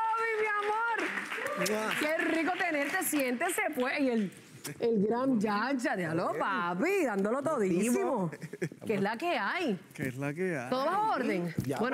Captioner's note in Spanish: aplausos